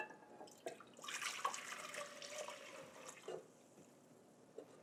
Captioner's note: liquid ripples